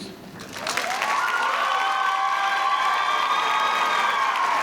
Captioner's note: audience cheering